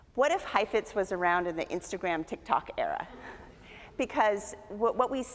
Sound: audience chuckles

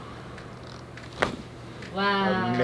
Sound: bone cracking

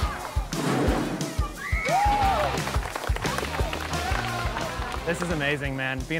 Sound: cheering and clapping

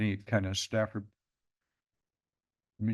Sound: pause

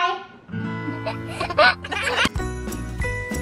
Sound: guitar strums; giggles; christmas music

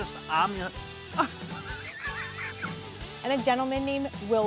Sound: laughing

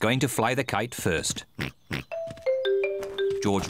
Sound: snorts

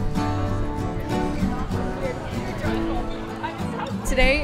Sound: indistinct conversation

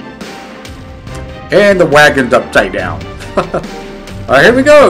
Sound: chuckles

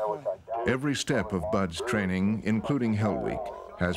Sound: voiceover

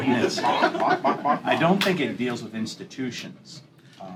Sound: laughter

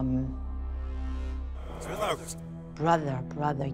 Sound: speaks distortedly

